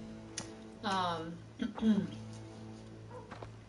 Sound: clears throat

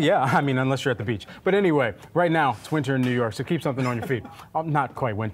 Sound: laughter

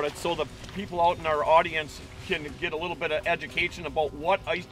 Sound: none

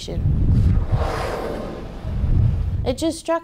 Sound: whale spouting

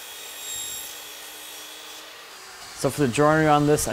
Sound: saw buzzing

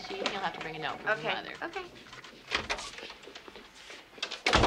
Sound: door clunking

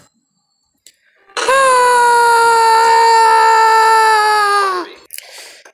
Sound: screaming

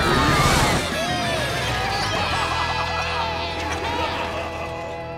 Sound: cheering

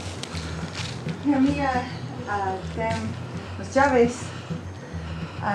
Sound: speaking in foreign language

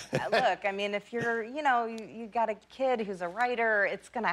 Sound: laughter

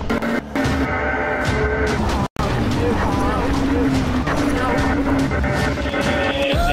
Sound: creepy intense music; distorted voice

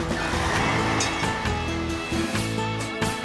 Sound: engines Running

